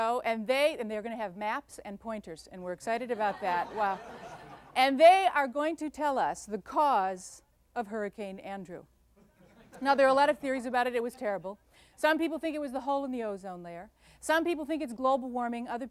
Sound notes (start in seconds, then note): 3.0 laughter; 9.1 light laughter